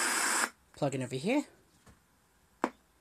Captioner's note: static stops